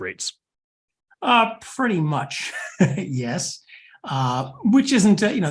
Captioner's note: laugh